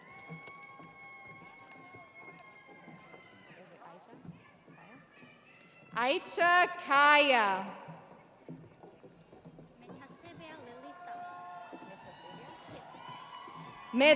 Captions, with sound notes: Christine Bradby. (audience cheering) Icha Kaia.